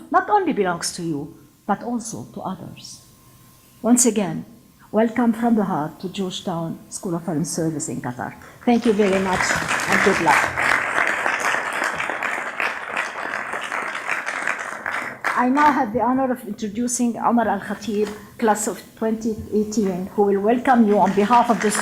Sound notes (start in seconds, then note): 11.0 applause